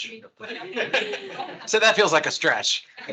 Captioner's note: attendees laughing